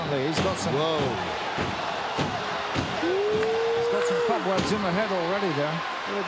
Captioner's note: applause